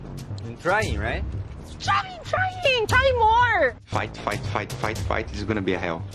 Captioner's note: none